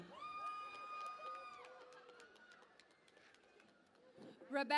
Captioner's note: cheering and Applause